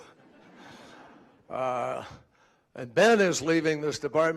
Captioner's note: laughter